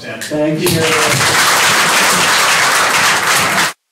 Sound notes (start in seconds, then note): 0.6 applause